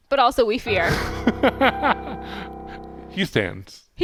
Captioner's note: laughing